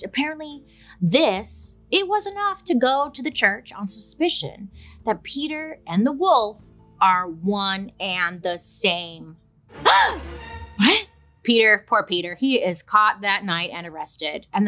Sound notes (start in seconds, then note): 9.4 dramatic suspenseful music; 9.7 gasps